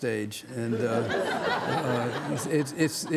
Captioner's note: audience laughing